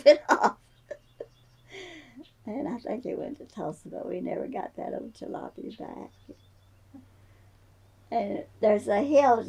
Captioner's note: laughs